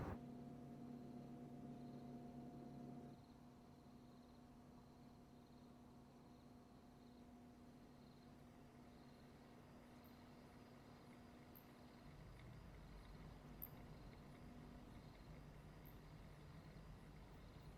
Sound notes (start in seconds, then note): 0.0 refrigerator hums; 13.2 crickets chirping